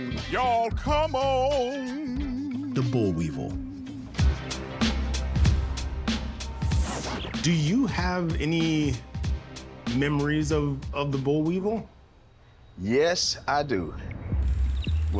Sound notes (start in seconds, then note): 4.0 hip-hop music; 6.4 record scratch